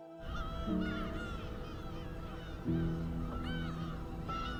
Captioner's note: seagulls squawk